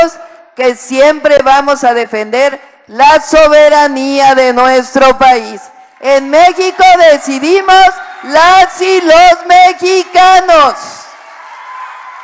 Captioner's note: applause